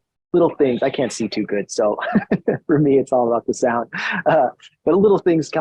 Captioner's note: laughs